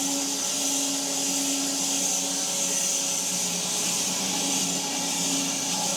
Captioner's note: log saw whirring continues